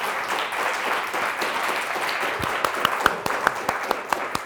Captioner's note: audience applauds